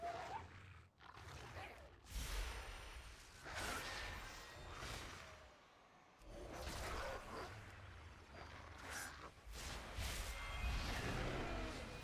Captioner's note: growling